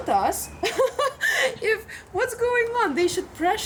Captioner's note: laughs